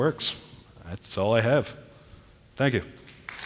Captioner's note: applause